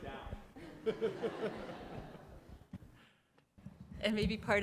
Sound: laugh

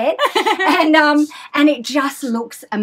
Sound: laughing

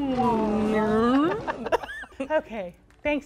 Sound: animal noise

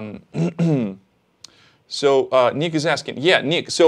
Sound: clears throat

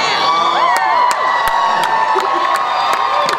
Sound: cheers and applause

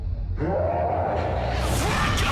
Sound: man groans

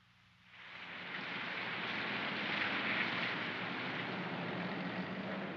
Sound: rain pattering

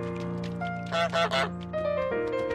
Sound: goose honks; peaceful piano music

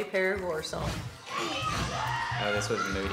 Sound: kids yelling

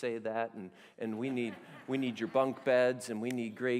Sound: laughter

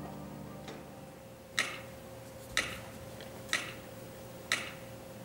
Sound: metronome clicking

